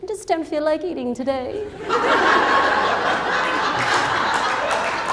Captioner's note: crowd laughs